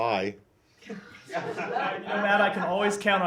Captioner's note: laughter